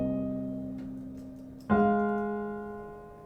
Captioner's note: sound of necklace rattling